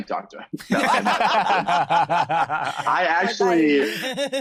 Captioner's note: all laugh